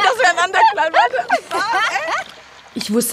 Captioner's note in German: Lachen